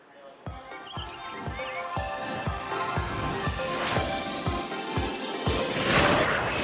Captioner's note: upbeat music; birds chirping